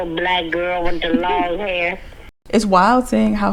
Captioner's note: woman laughing